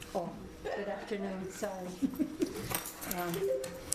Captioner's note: laughs